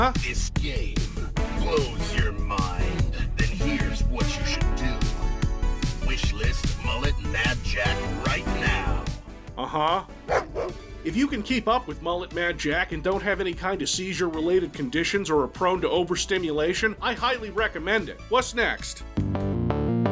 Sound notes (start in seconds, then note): 10.2 dog barking